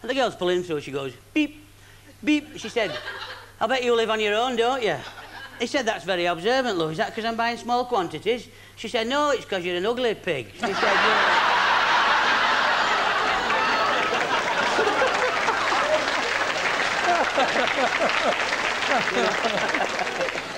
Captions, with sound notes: so as the girl pulls them through as goes beep, beep said "I'll bet you live on your own don't you" he said "that's very observant love is that because I'm buying small quantities" she said "no it's because you're an ugly pig !" [laughter] [applause]